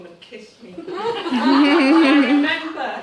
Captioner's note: all the participants laugh